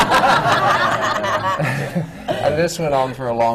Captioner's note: laughter